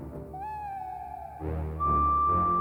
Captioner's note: hooting; unknown whistling